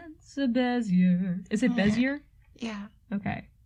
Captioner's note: upset noise